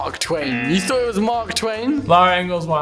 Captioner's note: buzzer rings